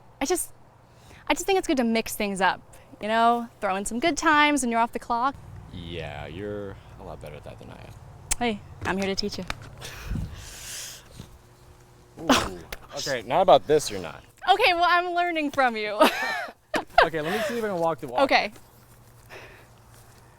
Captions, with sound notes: I just, I just think it's good to mix things up, you know? Throw in some good times when you're off the clock? - Yeah, you're a lot better at that than I am. - Hey, I'm here to teach you. - Ooh, okay. Not about this you're not. - Okay, well, I'm learning from you. (Laughs) - Okay, let's see if can walk the walk. - Okay.